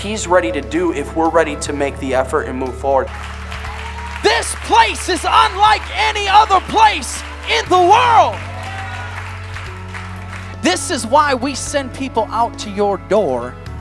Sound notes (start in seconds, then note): 3.0 clapping & praise; 8.7 clapping